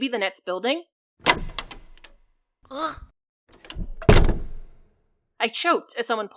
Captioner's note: door opening, choking, and door closing